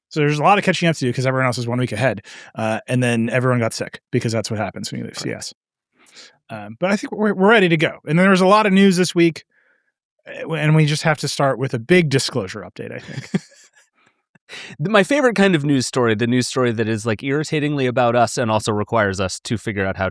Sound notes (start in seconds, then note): 12.1 laughing